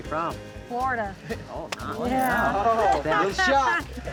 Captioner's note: all murmuring